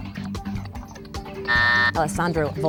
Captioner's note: buzzer sounding